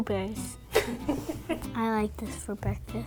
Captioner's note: laughing